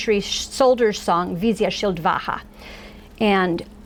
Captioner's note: foreign language